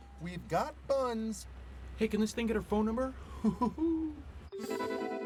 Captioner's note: laughs